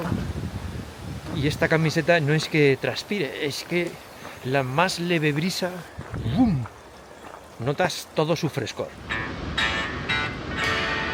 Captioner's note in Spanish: campana